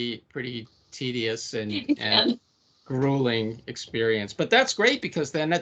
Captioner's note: laughing